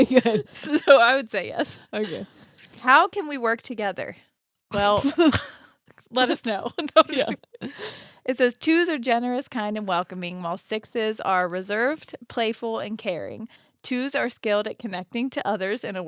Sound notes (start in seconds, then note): 6.3 chuckling